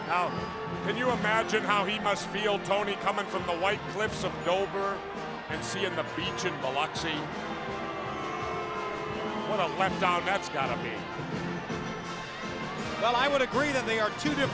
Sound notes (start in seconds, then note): 7.8 crowd cheering